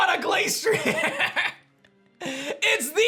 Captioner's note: laughs